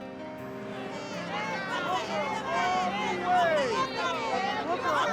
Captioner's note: shouting